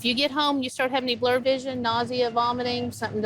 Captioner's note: none